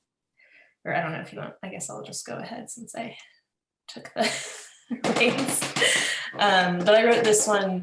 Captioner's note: laughs